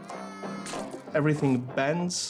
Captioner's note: baby cries